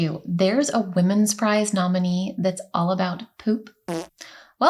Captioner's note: fart noise